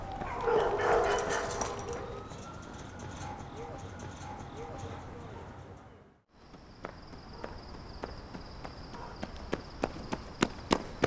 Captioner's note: dogs barking and police sirens; running footsteps